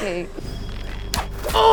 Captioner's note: fwip